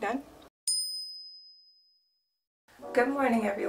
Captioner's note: bell chimes